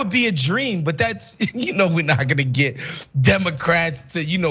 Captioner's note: laugh